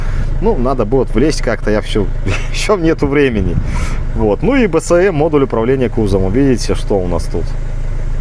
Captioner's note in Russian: фыркает